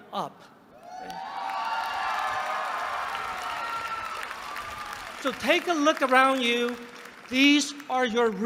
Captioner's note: applause